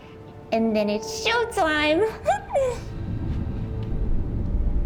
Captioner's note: laughs